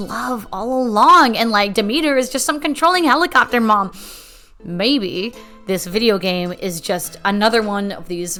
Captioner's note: deep breath